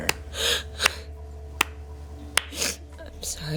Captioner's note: hand clapping